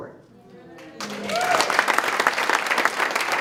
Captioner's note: applause